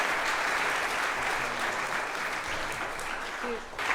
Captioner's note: applause